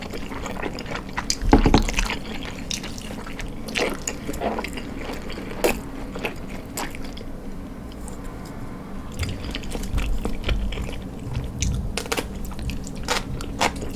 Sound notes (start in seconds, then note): 5.1 anxious construction noise from earlier